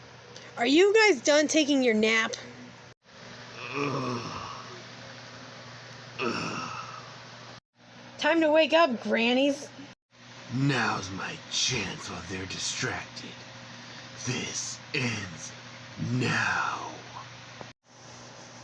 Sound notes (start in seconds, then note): 3.5 Shockwave Groans